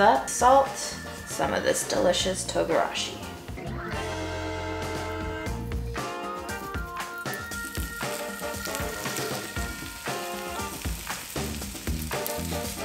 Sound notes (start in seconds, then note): 8.3 sizzling